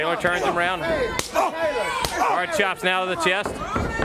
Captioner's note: crowd chatter